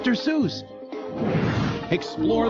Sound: bright music; light whooshes

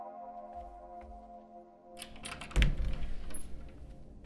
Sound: sound of the closet door opening

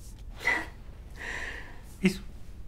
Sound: sigh

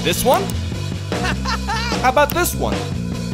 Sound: laughing

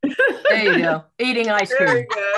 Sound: group laughing

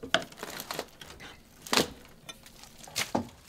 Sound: wood creaking

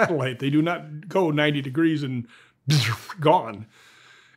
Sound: mimics object whizzing

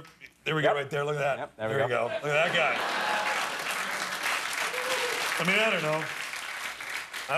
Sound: applause

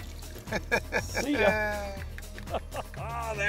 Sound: laughs

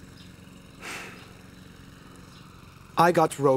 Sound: Sebastien sighs

